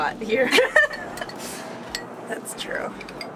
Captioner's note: laughing